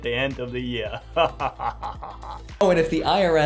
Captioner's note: laughing